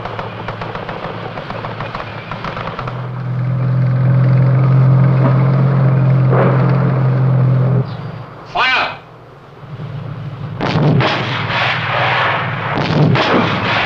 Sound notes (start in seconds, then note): 2.2 tank rumbling; 10.5 explosions